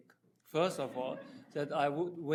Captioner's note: audience chuckling